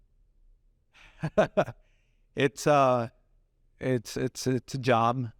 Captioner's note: laughs